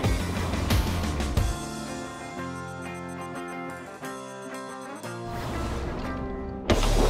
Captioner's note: soft rock music; beep sounds; heavy rock music; gun fires